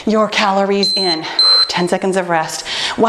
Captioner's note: timer beeping